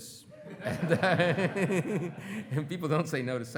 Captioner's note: everyone laughing